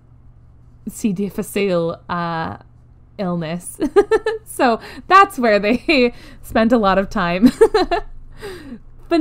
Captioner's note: laughs